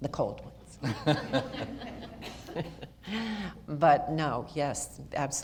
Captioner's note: audience laughter